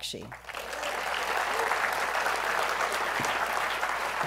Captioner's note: applause